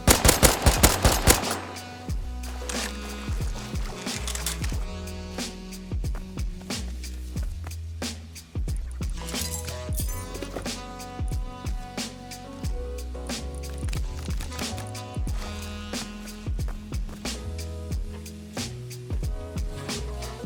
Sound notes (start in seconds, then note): 0.7 footsteps